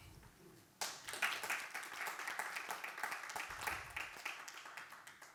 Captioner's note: everybody applauding